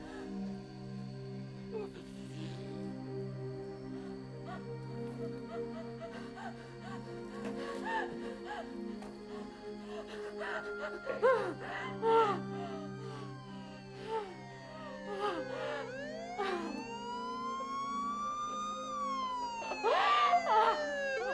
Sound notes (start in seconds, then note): 0.1 Kate sobs; 0.1 somber music; 13.2 siren wails; 15.9 Kate sobs; 18.2 siren wails